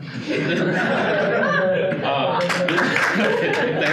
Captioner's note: audience laughing; audience applauding